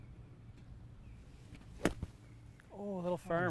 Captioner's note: golf club thwacking